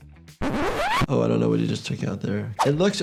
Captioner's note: tape scratching